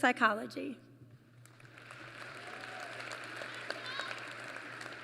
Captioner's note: applause